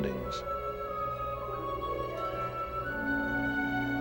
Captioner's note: whirring